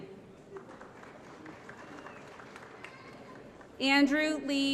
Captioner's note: applause